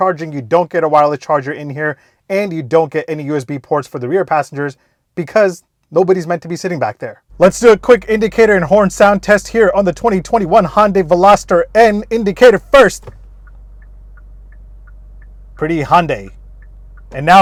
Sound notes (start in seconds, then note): 13.1 indicator blinking